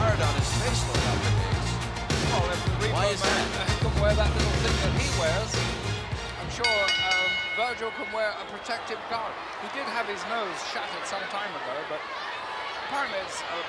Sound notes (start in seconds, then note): 6.3 bell ringing